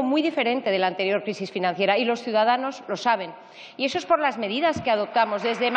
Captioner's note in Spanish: aplausos